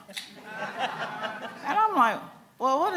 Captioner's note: laughing